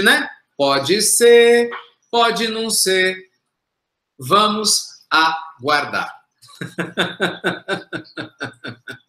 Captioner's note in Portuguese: risos